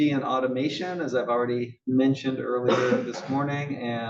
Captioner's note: cough